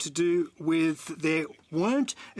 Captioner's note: speaking French